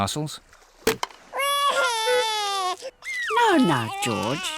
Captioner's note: wailing